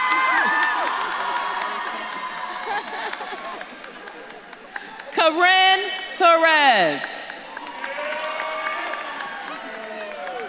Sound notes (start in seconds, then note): 0.3 audience claps and cheers; 5.1 laughs; 8.2 audience claps and cheers